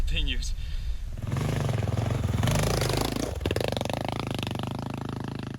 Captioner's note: motorcycle roaring